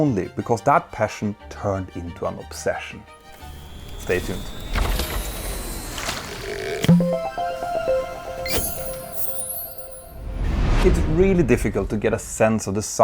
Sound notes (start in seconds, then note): 6.8 playful chime